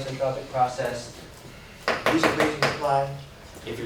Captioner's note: Knocking